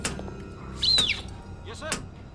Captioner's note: whistling